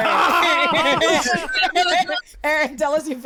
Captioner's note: laughter